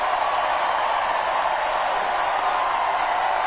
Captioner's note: cheers and applause